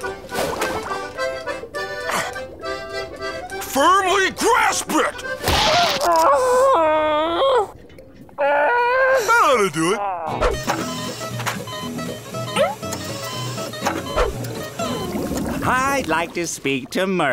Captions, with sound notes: Firmly grasp it! [groaning] That oughta do it. [beeping] I'd like to speak to Mer-